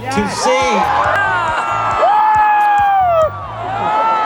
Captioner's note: audience cheering